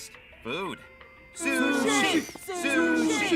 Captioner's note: chanting